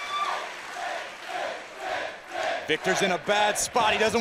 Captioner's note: crowd cheering